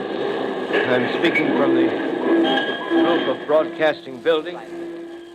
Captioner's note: bells ringing over city gradually diminishing